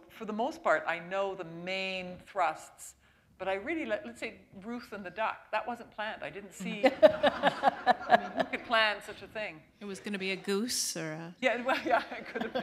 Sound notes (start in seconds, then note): 9.4 laughter